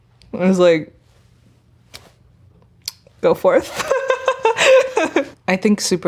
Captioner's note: laughing